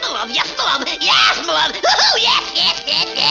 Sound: mocking

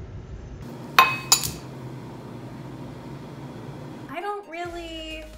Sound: spoon clinks

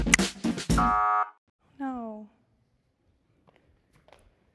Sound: buzzer sound

